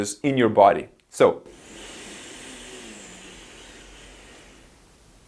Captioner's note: breathes in deeply